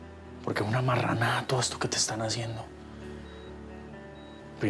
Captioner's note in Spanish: none